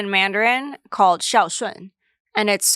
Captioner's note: speaks foreign language